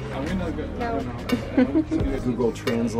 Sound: giggles

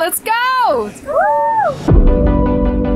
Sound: kids cheering; upbeat music

